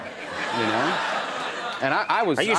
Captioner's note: audience laughs